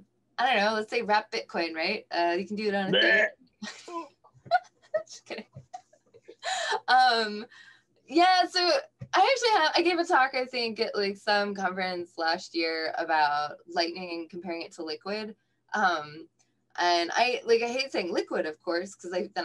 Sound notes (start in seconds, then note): 2.9 choke